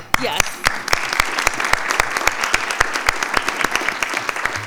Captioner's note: audience applauding